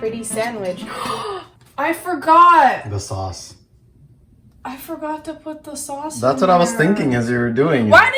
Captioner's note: gasp